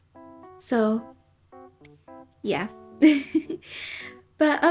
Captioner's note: giggles